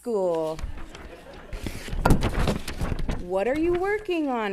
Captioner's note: attendees laughing